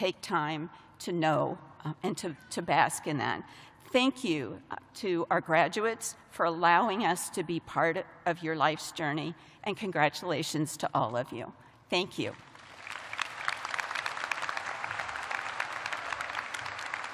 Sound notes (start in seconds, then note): 6.3 applause